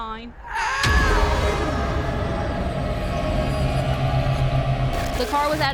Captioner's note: ominous music; Rougarou screaming